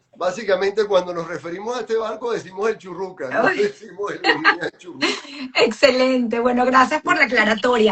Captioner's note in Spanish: risas